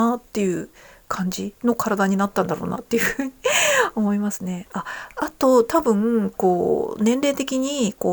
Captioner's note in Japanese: 笑い